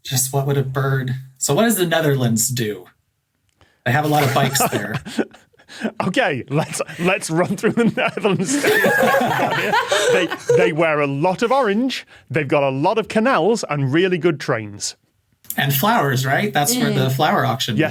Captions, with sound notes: Just what would a bird— So what does the Netherlands do? They have a lot of bikes there. (laughs) Okay, let's run through the Netherlands stereotypes here! (guests laughing) They wear a lot of orange. They've got a lot of canals and really good trains. And flowers, right? That's where the flower auction is?